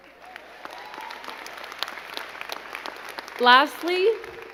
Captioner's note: crowd clapping